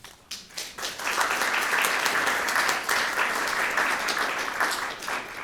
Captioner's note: audience applauds